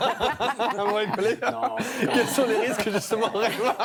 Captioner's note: laughter